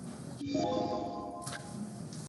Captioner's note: computer chimes